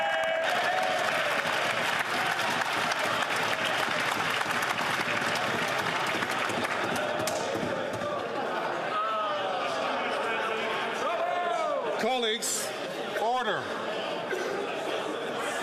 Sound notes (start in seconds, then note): 4.9 some Applause